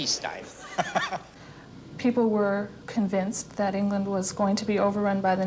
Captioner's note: chuckles